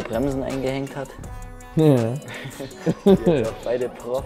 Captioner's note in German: lacht